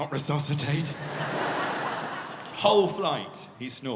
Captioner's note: audience laughing